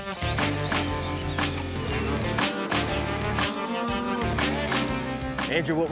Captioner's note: mooing